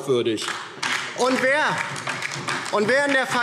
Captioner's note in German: Beifall DIE LINKE